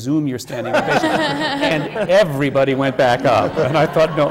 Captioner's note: laughter